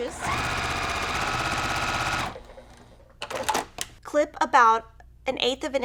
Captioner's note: sewing machine humming